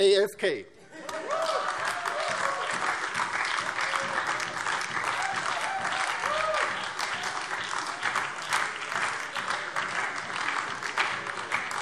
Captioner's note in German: Heiterkeit und lebhafter Beifall DIE LINKE, SPD und BÜNDNIS 90/DIE GRÜNEN